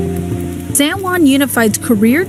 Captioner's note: voiceover